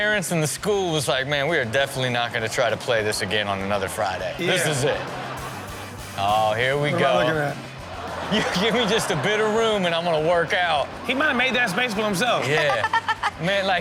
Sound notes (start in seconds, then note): 7.8 audience laughs